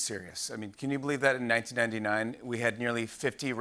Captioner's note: valley accent